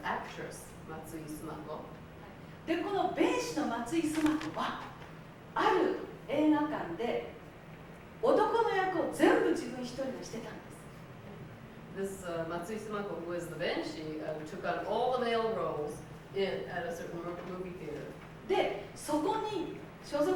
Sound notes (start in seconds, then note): 3.4 speaking Japanes; 19.4 speaking Japanes